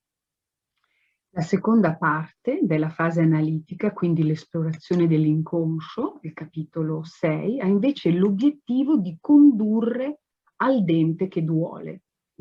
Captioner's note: speaks Italian